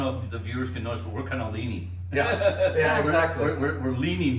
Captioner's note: laughs